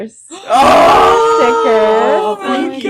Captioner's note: all yell in excitement